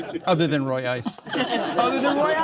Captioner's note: audience laughing